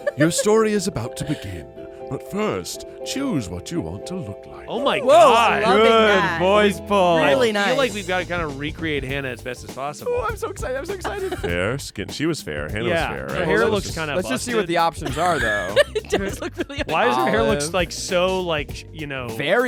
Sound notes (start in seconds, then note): 17.0 laughs